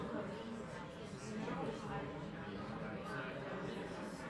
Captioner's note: people chattering